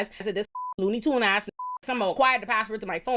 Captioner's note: beep